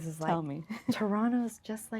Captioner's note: laughing